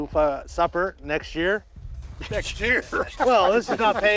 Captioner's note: laughs